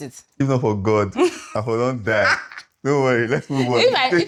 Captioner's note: laughs